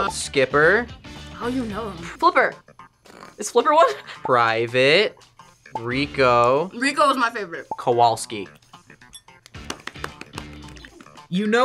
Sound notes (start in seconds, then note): 3.7 laughs; 9.4 both clap